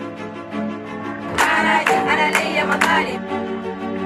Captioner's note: women chanting & applauding